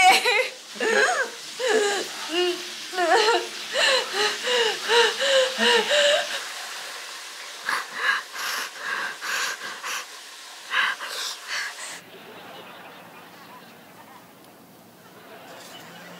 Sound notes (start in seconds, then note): 7.6 cries; 11.9 audience laughter